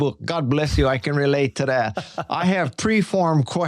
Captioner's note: chuckling